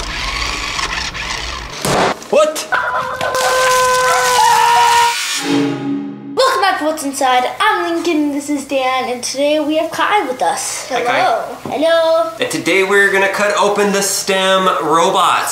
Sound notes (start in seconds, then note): 0.0 toy whirring; 3.4 boys yelling